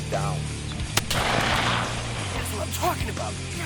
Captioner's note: gunshot